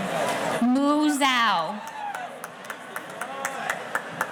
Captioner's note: clapping